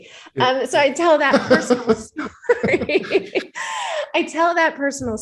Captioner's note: laughing